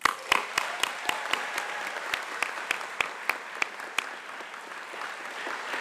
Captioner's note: applause